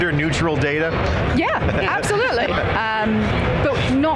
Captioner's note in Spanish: Risas